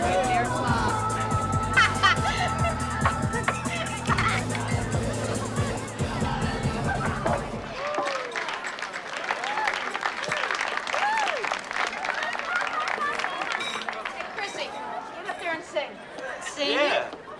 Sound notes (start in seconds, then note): 0.0 laughing; 7.7 music Stops; 7.7 applause